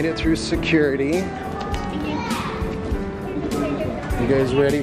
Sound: kids talking

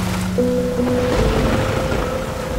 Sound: thunder rumbling

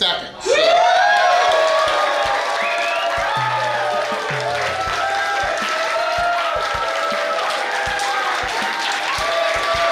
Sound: crowd Cheering

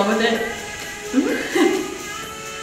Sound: laughs

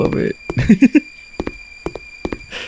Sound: giggles

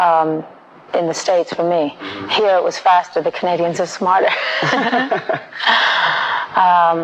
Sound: laughing

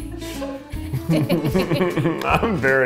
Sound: chuckles; laughs

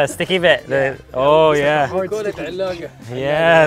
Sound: speaks foreign language

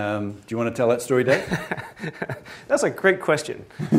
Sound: laughs

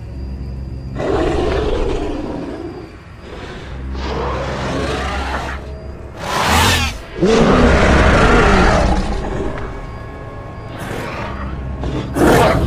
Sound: carnotaurus Sounds

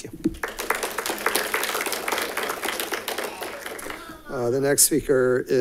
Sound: congregation claps

